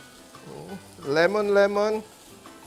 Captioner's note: sizzles